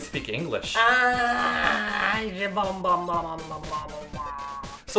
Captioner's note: bleats like an angry goat